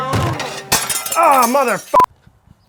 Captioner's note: glass shatters